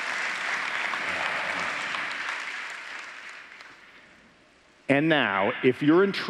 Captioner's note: applause